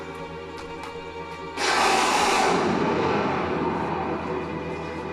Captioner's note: thunder crashes